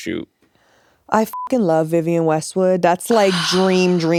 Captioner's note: beep